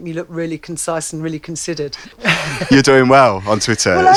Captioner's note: laughs